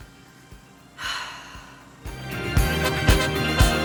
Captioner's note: sighs; disco music